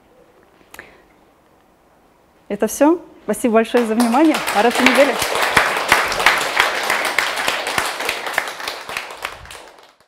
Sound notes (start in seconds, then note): 5.3 аплодисменты